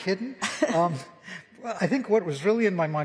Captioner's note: laughter